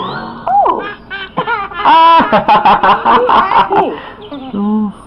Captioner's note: children Laughing